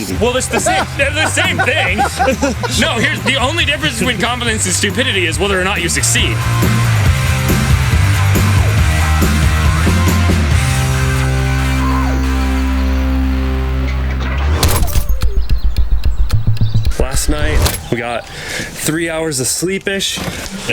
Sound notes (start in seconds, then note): 0.2 everyone laughs; 7.3 rock music; 14.7 dramatic clock ticking